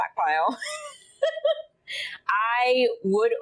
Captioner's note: laughing